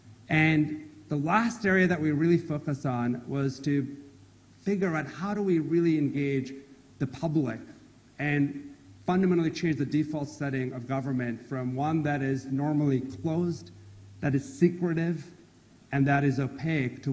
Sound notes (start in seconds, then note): none